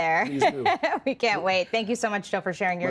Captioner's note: laughs